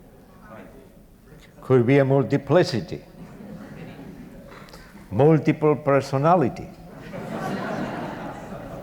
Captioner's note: audience Laughter